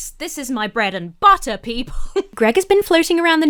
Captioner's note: laughs